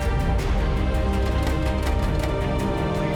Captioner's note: metallic clanking